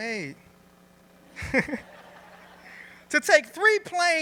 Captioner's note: laughter